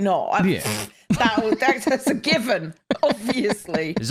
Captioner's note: laughs